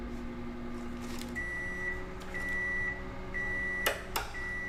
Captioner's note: microwave beeping